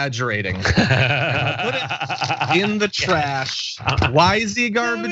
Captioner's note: laugh